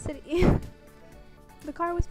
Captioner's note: laughs